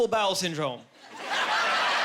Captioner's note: laughing